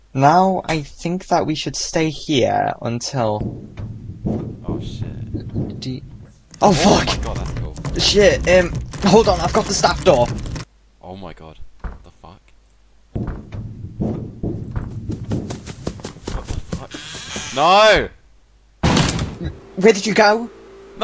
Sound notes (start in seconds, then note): 3.1 vent sound; 5.2 door handle being shook